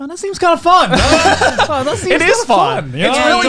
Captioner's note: all laughing